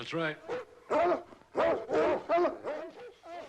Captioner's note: barking